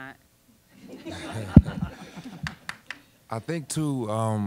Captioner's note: audience laughing